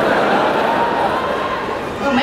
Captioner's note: the audience laughed